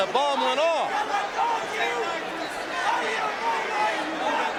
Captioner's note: audience cheering